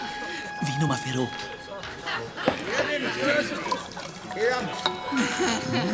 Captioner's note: man speaking foreign language